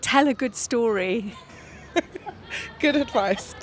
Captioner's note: laughs